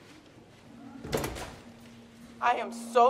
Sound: door slamming

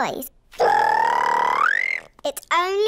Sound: high-pitched whistle

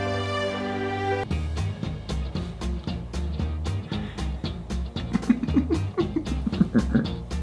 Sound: upbeat music; laughing

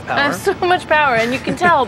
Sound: chuckling

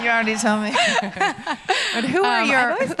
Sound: laughs

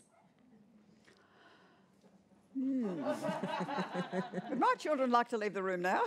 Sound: laughter

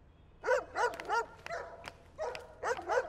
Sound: dog barking

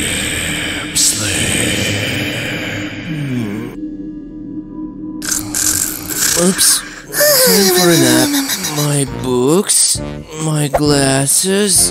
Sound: her voice gets quieter and turns into muttering; evil whisper

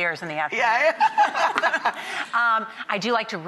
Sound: laughs

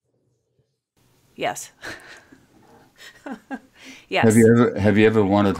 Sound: chuckles

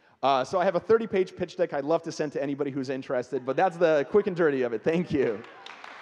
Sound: audience clapping

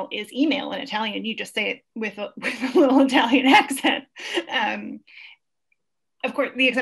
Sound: laughs

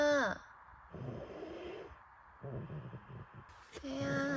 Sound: answering with a snore

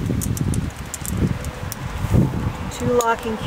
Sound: metal clicking

